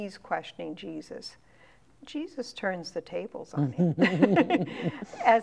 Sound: laughing

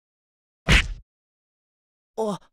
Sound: thud

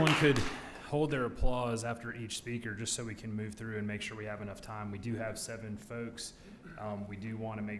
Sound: applause

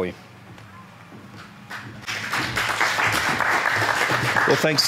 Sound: audience applauds

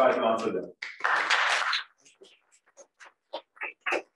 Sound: audience clapping

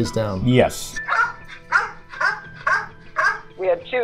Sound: dog barking

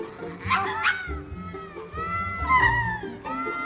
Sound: lemurs chirping

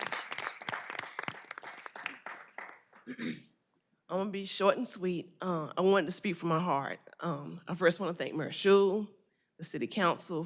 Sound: applause

